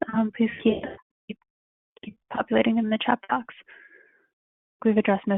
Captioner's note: interruption in audio